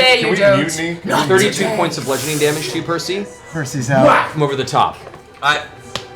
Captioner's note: whack